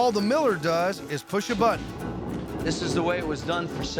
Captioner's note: rumbling sound